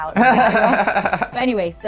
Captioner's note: laughs